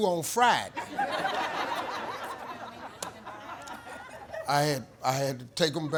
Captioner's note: audience laughing